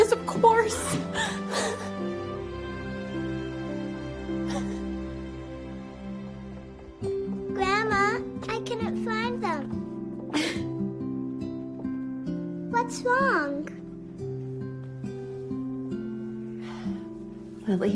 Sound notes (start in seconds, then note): 4.4 sobbing